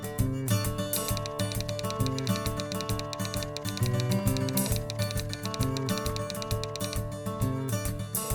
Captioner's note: typewriter sounds